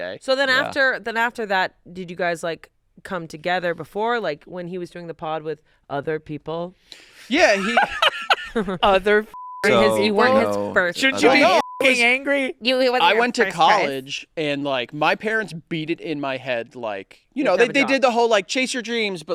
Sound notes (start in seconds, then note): 7.4 laughing; 11.2 beep